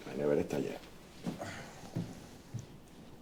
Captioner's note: footsteps